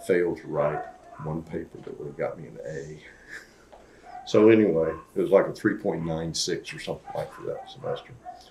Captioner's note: laughs